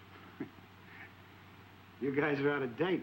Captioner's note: George chuckling